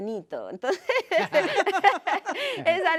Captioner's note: risas